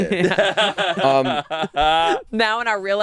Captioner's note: laughing